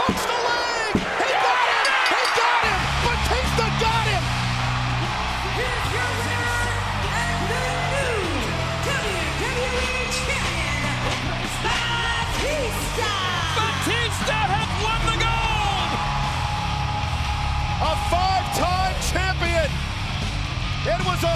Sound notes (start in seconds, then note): 16.1 audience cheering; 16.1 energetic rock music